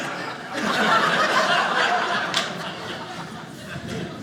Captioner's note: audience laughing